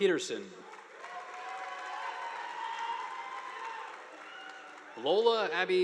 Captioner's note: audience applauding